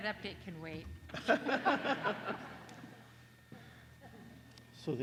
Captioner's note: laughter